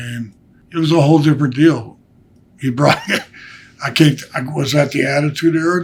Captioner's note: laughs